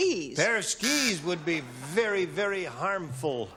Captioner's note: buzzer